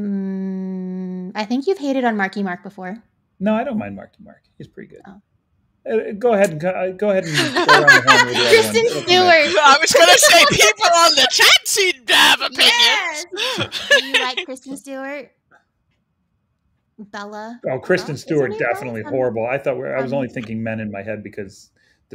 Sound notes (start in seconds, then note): 7.8 all laughing